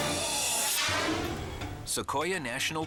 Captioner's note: air whooshes